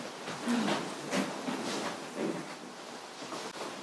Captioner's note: fabric rustles